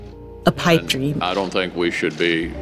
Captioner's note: soundbite of archived recording